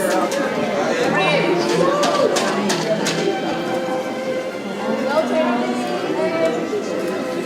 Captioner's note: people cheering; people chattering; ceremonial orchestral music